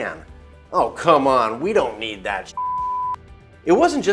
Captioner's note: beep